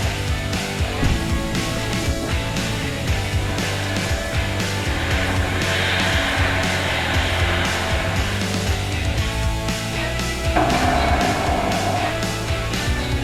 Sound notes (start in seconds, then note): 6.2 metal grinding; 10.0 metal clinking